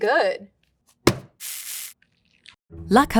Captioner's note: bag thudding and coffee pouring